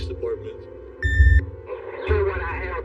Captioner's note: answering mhine beeps